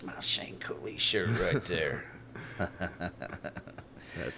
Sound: laughing

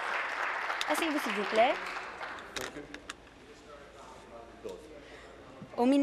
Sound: applause

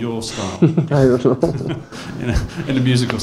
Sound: laughs

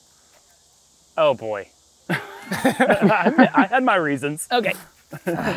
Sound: laughter

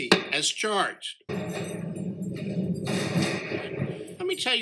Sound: judges gavel and jail cell closing

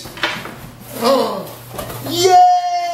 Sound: gasps

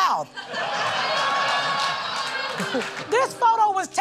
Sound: laughter

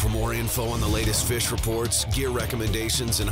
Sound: voiceover

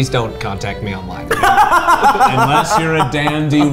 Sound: laughs

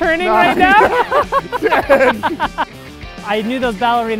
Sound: laughing

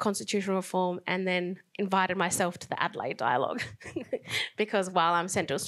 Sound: laughs

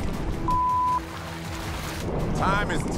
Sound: beep

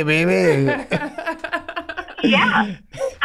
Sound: all laughing

